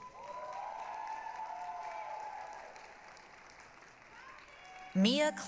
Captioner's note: applause, cheering